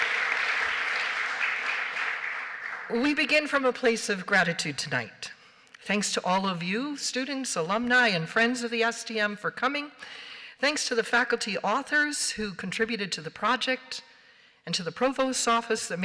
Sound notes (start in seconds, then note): 0.0 applause